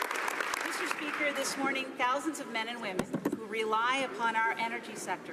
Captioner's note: some Applause